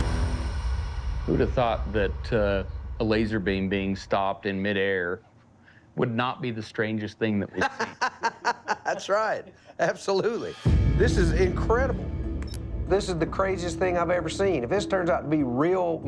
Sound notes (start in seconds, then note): 7.5 laughs